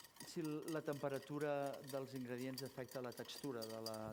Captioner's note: non-english speech